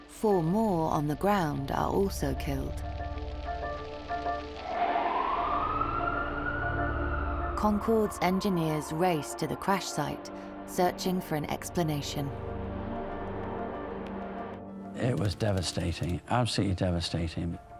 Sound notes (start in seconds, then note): 4.4 sirens wailing